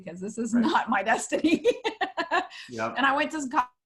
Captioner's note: laughs